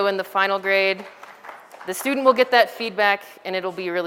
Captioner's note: background audience applause sounds